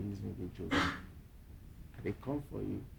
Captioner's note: speaking in foreign language